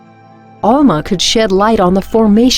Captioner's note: voiceover